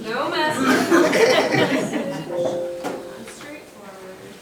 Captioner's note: group laughing